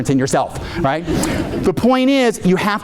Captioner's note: audience laughing